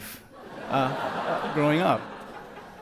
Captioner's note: audience laughs